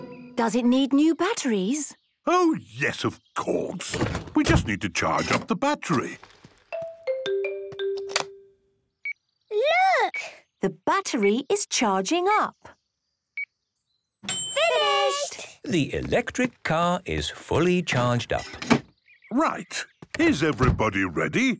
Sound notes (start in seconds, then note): 7.9 clicks; 9.1 meter beeping; 14.2 dings